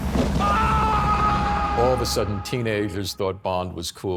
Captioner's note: screams